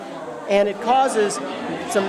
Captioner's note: see splashing and hear laughter